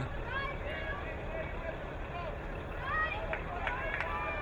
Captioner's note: crowd cheering